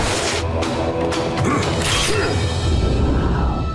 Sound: grunting

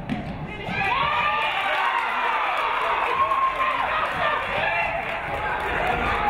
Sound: audience cheering; audience clapping

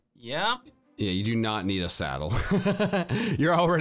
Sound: laughs

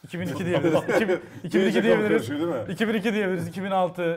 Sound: laugh

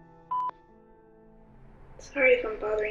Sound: beep

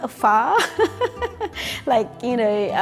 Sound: laughing

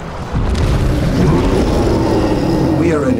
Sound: roars

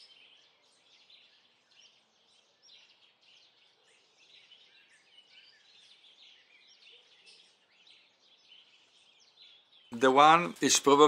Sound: birdsong

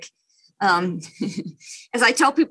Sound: chuckles

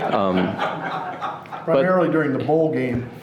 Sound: laughing

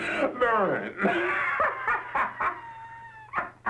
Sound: laughs

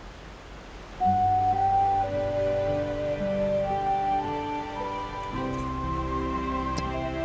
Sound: soothing music; water splashes

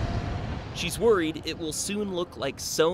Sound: voiceover

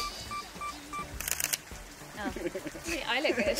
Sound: both laugh; camera shutter click

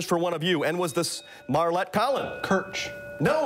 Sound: bell rings

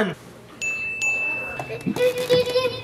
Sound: bell dinging

